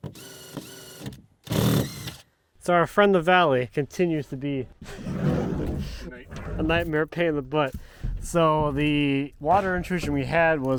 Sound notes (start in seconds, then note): 1.4 drill whirring; 4.8 wood dragging